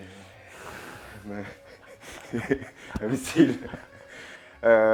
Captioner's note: laughs